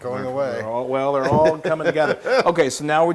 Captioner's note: laugh